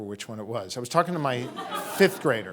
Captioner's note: audience laughing